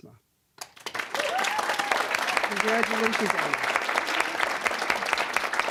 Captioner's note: applause, cheering; applause